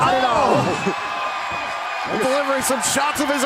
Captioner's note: cheers and applause